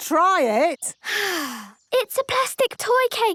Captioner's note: sighs